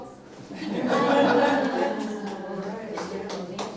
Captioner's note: laughter